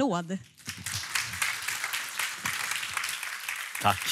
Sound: applåder

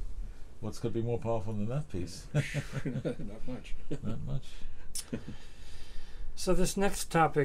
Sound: laughter

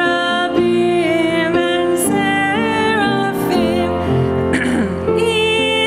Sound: coughs

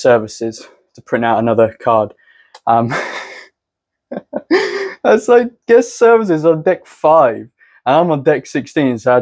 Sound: laugh

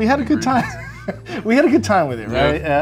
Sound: laughing

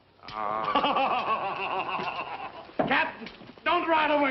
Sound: guffawing

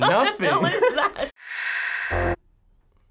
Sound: snickering; static

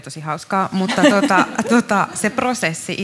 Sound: laughing

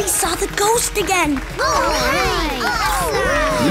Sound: cheering

